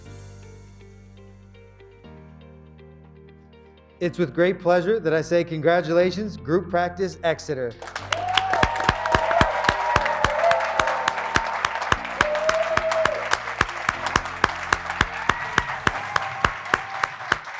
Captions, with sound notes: It's with great pleasure that I say, congratulations, Group Practice Exeter. (graduates clapping) (graduates cheering)